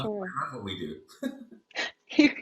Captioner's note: both giggle